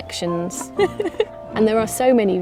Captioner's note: laughing